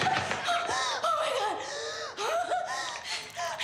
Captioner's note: gasping